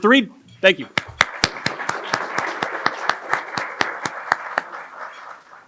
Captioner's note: applause